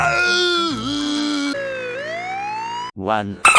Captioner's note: ambulance Sirens Goes Off